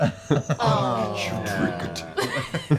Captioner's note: groaning